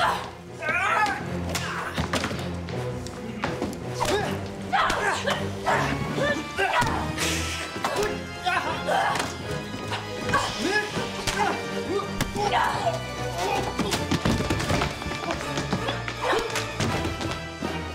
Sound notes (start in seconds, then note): 3.6 grunting; 7.1 hissing; 10.1 grunting